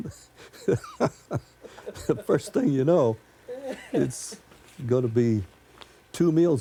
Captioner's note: laughs